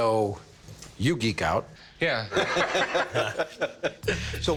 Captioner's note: all laughing